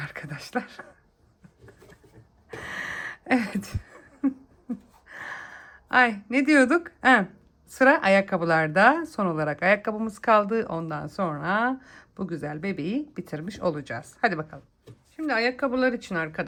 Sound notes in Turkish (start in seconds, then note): 3.3 kahkaha